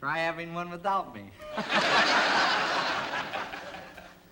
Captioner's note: laughter